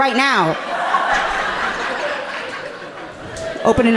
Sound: audience laughing amusingly

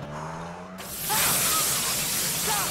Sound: water splashing

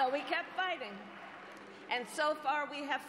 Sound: cheers and applause

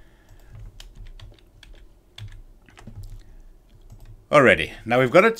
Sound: keyboard clacking

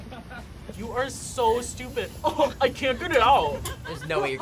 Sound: laughs

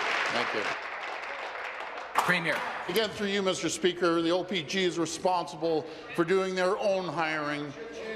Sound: some Applause

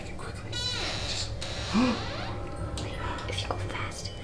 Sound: creaking; whispering

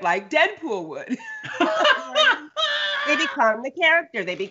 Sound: both laugh

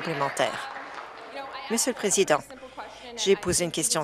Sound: applause

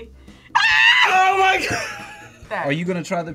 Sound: screams

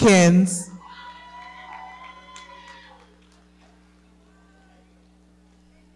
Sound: audience cheering and clapping

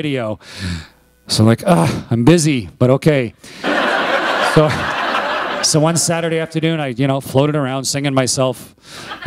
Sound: laughter

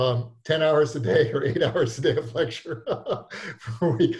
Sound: laughing

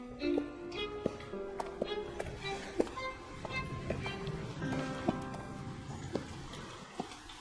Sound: footsteps

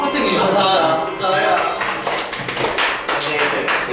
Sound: everyone claps

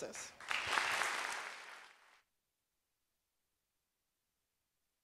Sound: applause

